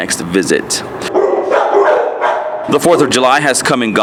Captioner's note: dogs barking